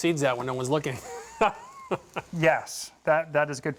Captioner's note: laughs